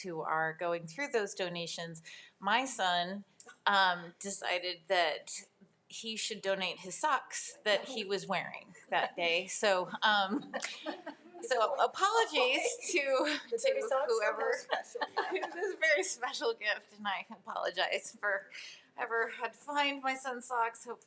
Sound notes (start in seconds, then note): 10.4 board members laughing; 13.7 speaks faintly